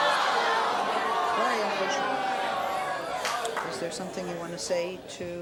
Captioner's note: audience murmuring